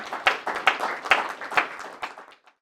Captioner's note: audience applauds